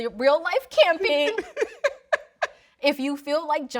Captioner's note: laughing